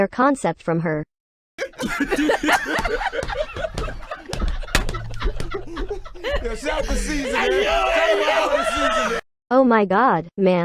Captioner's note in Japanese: 笑いが始まります